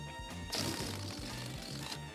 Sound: farting-noise

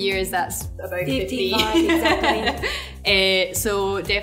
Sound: laughs

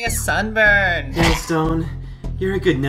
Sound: Chalk wheezes

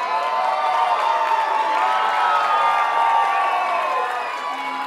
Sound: audience cheers and applauds; audience cheers

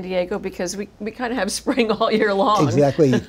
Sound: laughs

